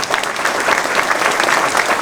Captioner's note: applause